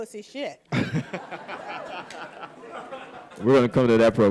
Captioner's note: audience laughing